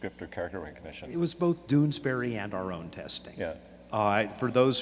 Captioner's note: voiceover